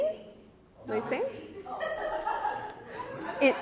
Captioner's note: all laugh